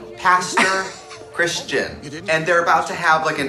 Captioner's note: woman laughs